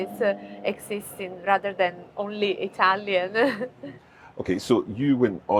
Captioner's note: chuckles